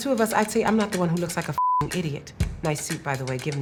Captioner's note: beep